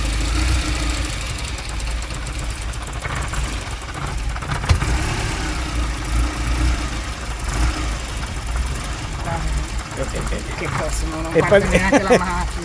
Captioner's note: engine running very badly